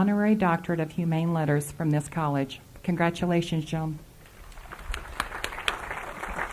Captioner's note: applause